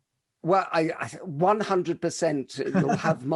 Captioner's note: laughs